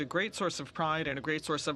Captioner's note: speaking French